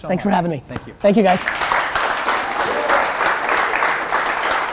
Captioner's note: applause